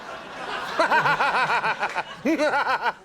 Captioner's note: audience laughs; laughing maniacally